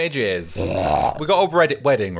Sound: belches

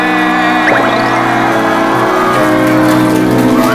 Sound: roaring applause

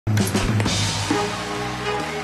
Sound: applause

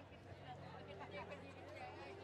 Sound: none

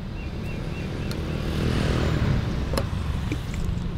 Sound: moped passing; paint can opening; paint brush dipping in paint

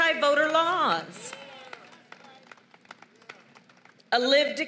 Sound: applause

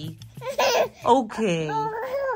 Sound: sobs

